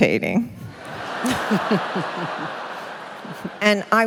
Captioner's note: laughter